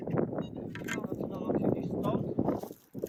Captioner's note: wind noise sorry about that